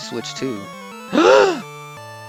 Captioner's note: gasp